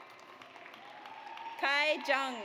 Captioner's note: audience applauds